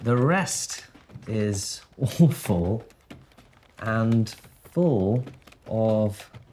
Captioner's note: none